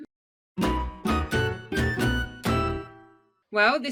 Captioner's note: logo chiming